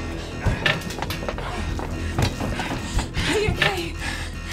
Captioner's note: Jim groaning